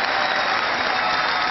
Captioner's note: cheering